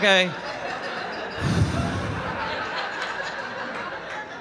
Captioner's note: audience laughing